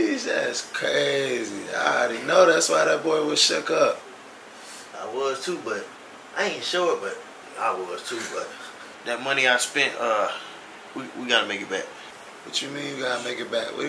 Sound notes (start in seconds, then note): 5.0 Carl laughs softly